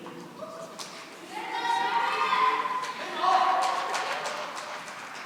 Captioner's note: cheering and applause